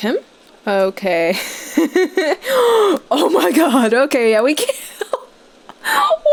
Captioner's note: giggling; gasps